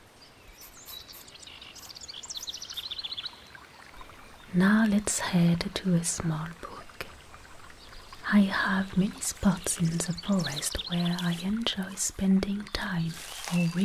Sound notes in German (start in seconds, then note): 2.5 Bachplätschern